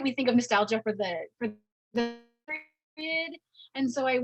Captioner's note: audio distortion